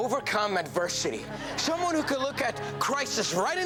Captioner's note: audience laughs